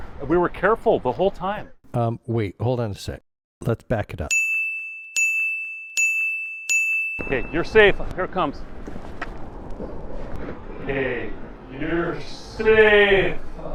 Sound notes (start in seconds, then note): 4.3 beep-Beep-Beep-Beep